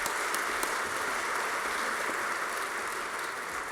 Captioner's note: applause